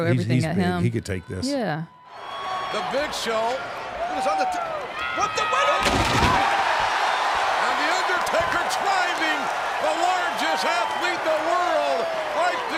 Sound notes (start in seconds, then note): 5.8 table thuds; 6.0 audience cheering